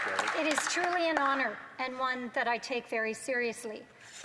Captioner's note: some Applause